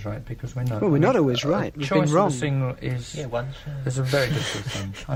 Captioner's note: laughter